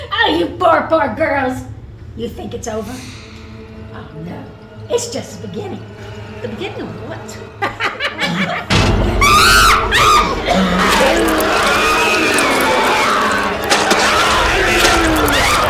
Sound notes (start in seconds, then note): 7.5 Valarie laughs; 9.2 Valarie screams; 9.2 Goochers growling; 10.6 dramatic music